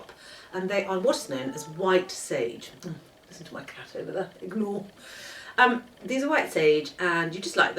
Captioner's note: A cat calls